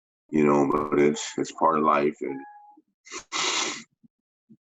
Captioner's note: sniffs